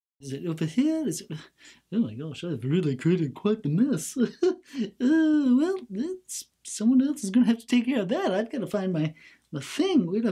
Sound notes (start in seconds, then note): 1.5 sighs; 3.9 laughs; 4.6 sighs